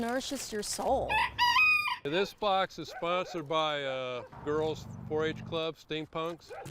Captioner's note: rooster crows